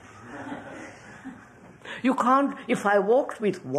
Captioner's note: laughter